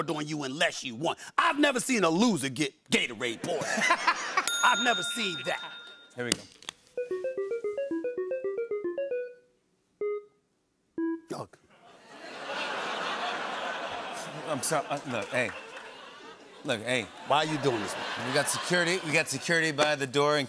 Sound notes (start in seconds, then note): 4.4 bell dings; 11.8 laughter